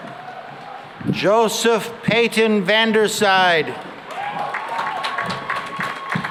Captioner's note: cheering and applause